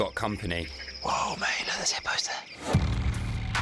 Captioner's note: whispering